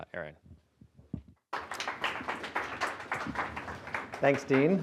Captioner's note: applause